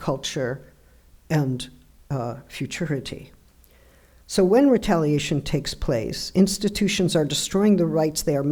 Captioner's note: none